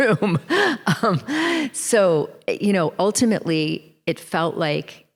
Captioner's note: chuckles